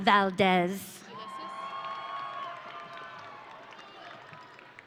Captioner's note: audience cheering